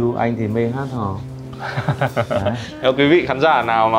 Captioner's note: laughing